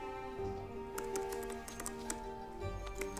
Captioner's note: keyboard clacking